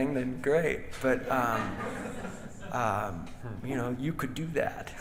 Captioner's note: audience laughing